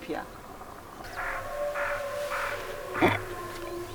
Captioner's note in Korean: 늑대 울음 소리